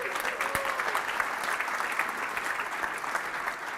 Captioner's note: applause